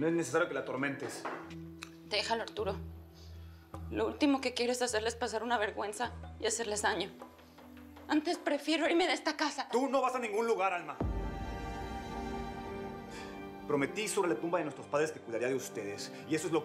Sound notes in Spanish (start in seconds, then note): none